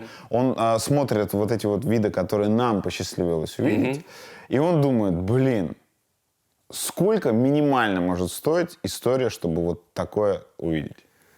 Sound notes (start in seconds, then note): none